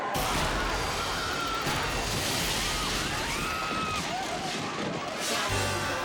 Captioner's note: children cheering; people screaming; stage thumps; graphics whoosh; upbeat music